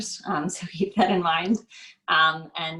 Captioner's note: laughs